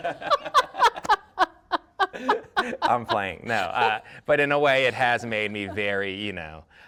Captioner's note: laughter